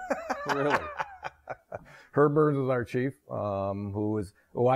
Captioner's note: laughs